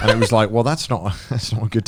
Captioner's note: Joey laughing